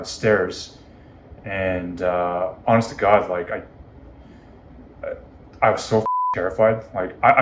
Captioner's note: beep